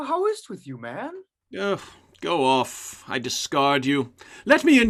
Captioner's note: scoff